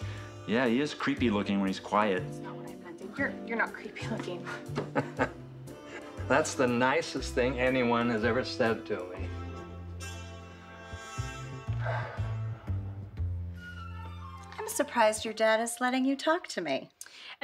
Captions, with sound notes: - Yeah, he is creepy looking when he is quiet. - That's not what I meant. And you're not creepy looking. - (laughs) That's the nicest thing anyone has ever said to me. (swanky jazzy music) (Ray sighs) - I'm surprised your dad is letting you talk to me.